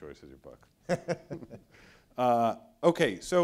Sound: laughs

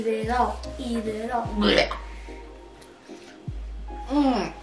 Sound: gags

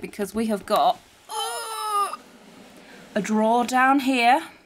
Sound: grunts

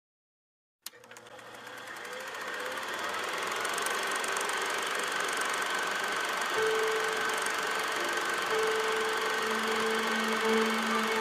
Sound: sound of a film projector joined by an orchestra tuning up

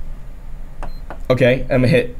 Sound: machine beeps

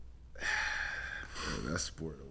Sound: sighs

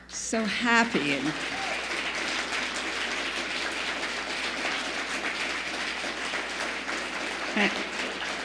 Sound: applause

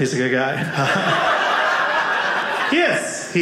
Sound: audience laughing

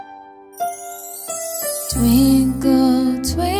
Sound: chimes tinkling

